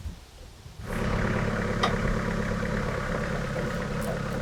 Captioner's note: engine revving